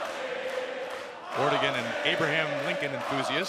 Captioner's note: crowd cheering